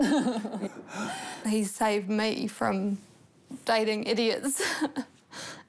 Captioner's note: both chuckle; laughs